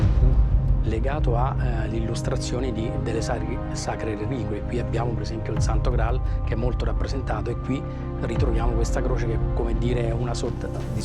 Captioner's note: Italian